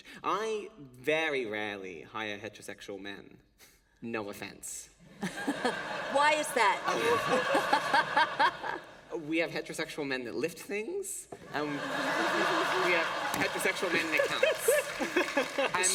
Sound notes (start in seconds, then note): 5.1 laughter; 10.8 laughter